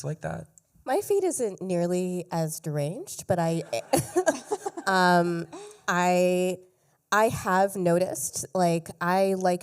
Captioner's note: laughter